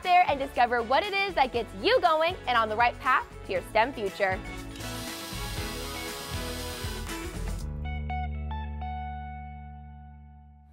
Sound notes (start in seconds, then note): 4.6 upbeat music; 5.0 machine whirling